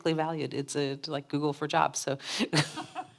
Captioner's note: laughs